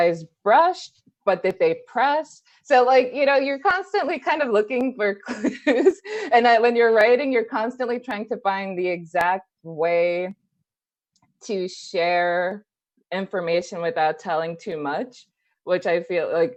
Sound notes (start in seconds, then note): 5.4 laughs